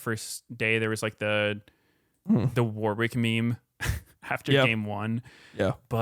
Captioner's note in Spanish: risas